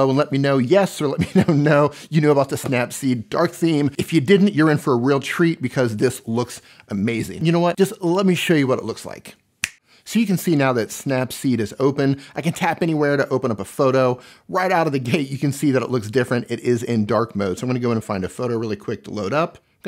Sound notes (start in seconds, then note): 9.6 fingers snapping